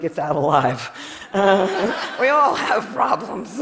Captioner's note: Laughter; 笑聲